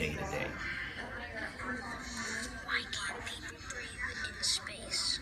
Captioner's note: whispering